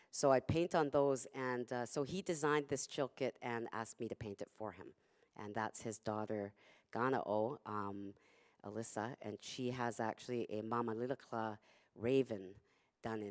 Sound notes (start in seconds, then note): 7.1 non-english speech; 10.9 non-english speech